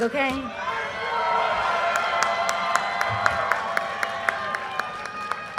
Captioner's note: audience cheers and applause